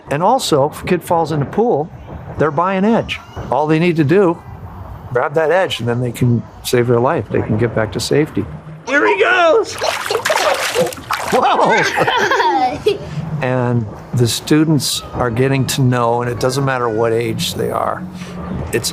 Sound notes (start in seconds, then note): 9.6 water splashing; 11.2 laughs